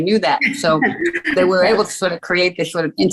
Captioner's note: chuckling